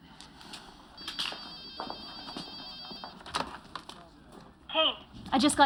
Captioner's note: phone rings